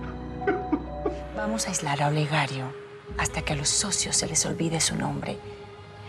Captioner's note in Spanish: llanto